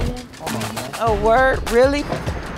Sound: speaking softly

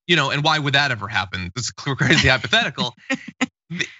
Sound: laugh

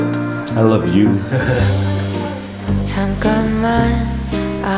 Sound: giggles

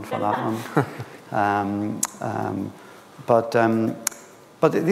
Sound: laughs

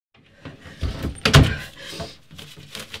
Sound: door closing; heavy breathing

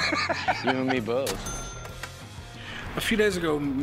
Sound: cash register ringing

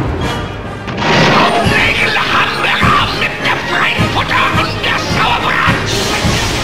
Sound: speaking German

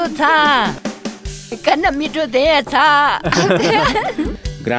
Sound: laughter

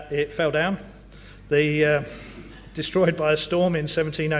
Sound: laugh

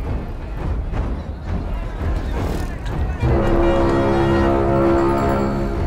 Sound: vendors Clamoring

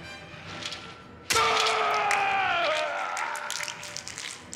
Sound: claws clink; Peter yells

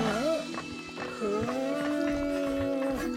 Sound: groaning

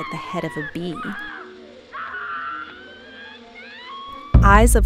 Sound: hysteric screams

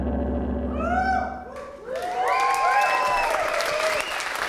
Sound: applause

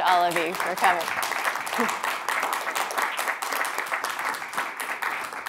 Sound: audience clapping

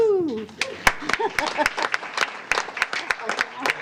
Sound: applause

